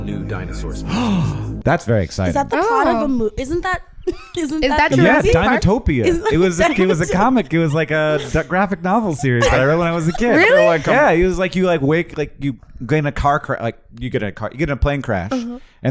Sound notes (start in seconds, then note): 0.8 gasps